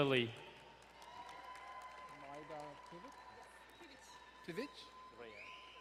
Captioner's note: crowd cheering and applauding